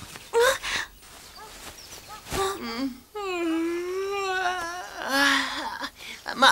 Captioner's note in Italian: Sbadiglio